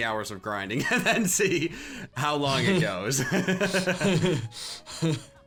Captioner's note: laughs